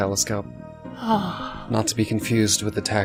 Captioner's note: sighs